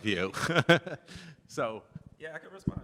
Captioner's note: laughs